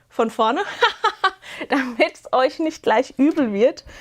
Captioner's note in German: Gelächter